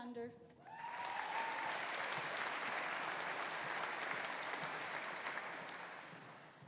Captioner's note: audience cheering; audience applauding